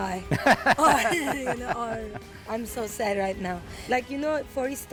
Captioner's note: laughs